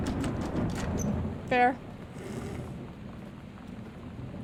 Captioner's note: thunder; snorts